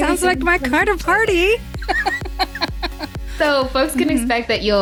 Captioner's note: laughs